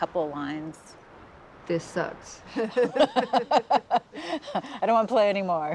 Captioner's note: both laughing